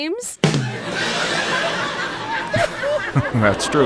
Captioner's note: audience laughter